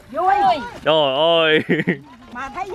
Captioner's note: laugh